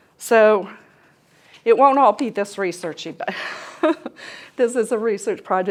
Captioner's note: laughter